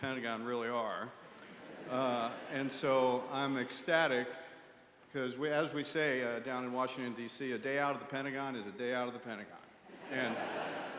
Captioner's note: laughter